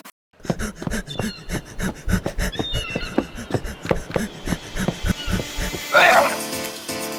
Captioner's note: pained breathing